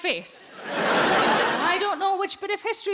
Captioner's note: audience laughing